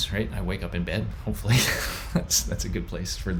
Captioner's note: laughs